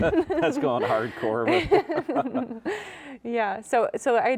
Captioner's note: both chuckling